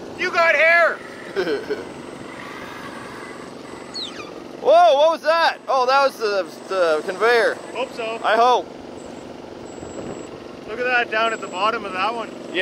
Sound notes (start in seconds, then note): 1.2 chuckles; 3.5 engine rumbling; 3.5 squeaking